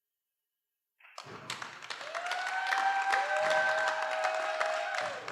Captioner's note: cheering